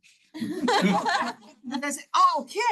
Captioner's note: attendees laughing